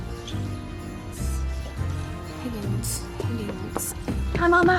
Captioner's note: whispering to self